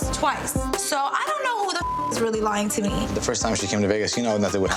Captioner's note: beep